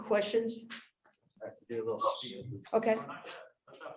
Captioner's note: faintly speaking